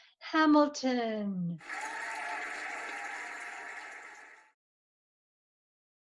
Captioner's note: cheering and applauding